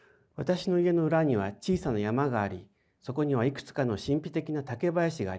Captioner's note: speaking in foreign language